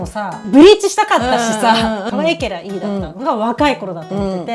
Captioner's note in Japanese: 笑い